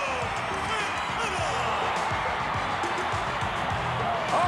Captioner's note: audience cheering